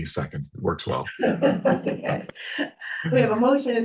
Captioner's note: all chuckling